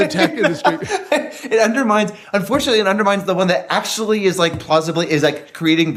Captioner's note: laugh